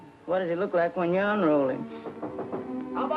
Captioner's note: door knocking